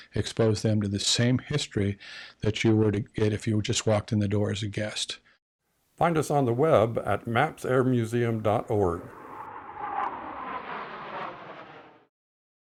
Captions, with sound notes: expose them to the same history that you would get if you just walked in the door as a guest. - Find us on the web at mapsairmuseum.org. (jet airplane flying over)